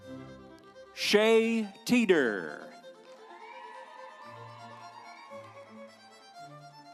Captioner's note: instrumental music; audience cheering; instrumental music